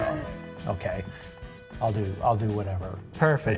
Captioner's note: chuckle